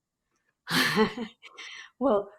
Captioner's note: laughs